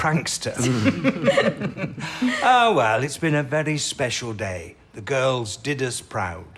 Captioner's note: laughter